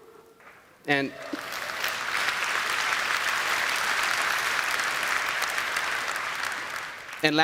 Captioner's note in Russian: Аплодисменты